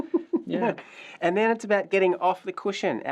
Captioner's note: chuckles